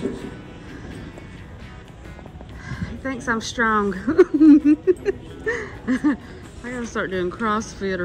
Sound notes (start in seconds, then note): 3.9 laughing